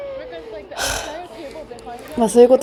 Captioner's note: sigh